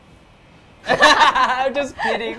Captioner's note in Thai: หัวเราะ